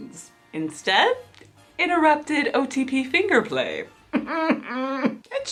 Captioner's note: whimpers